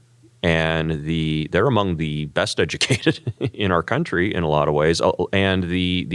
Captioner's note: laugh